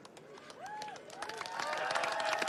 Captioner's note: cheers and applause